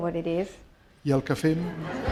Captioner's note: speaking spanish; laughter